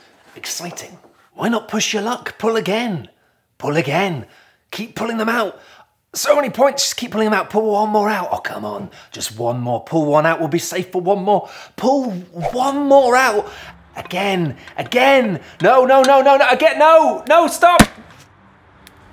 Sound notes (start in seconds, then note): 17.7 bang